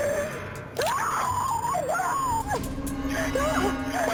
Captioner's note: screaming